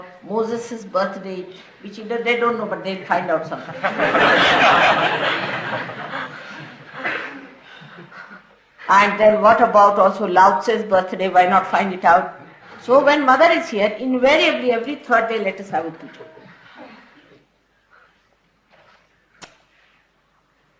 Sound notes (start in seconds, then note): 3.6 laughter